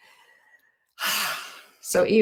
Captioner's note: breathing deeply